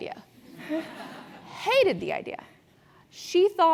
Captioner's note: laugh